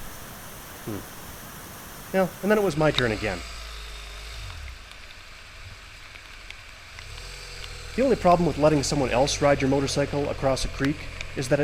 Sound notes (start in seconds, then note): 4.0 motorbike engine revving